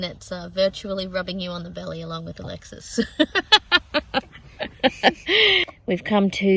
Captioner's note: laughs heartily